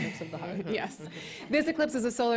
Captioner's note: chuckles